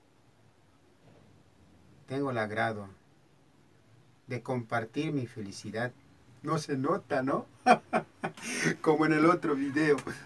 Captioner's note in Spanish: risas